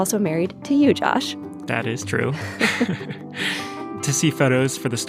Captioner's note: laughter